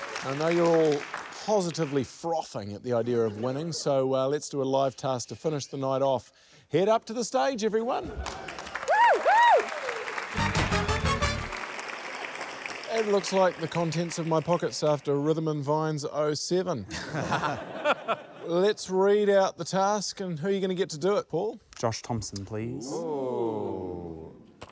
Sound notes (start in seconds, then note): 8.1 cheers; 8.1 cheers, applause; 10.4 curious music; 16.8 laughter